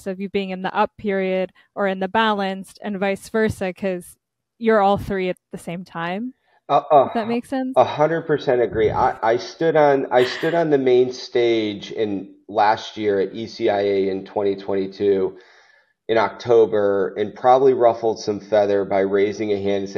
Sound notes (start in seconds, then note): 10.1 chuckling